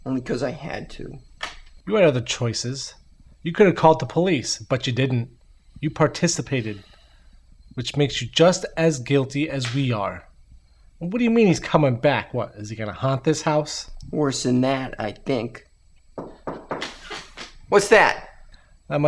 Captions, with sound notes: - Only 'cause I had to. - You had other choices, you could have called the police but you didn't. You participated. Which makes you just as guilty as we are. And what do you mean he's coming back? What? Is he gonna haunt this house? - Worse than that, I think. (knocking on door) What's that?